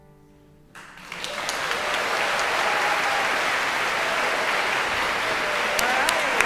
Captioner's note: audience cheering and applauding